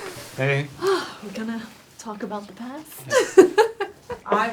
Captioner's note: laughs